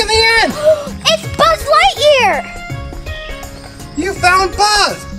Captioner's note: gasps